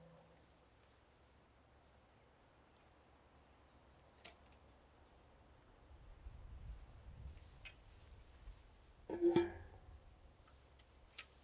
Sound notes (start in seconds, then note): 6.6 grass shifting